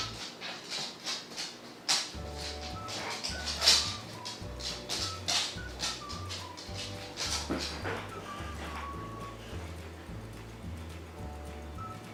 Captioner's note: more Digby footsteps; more dog sounds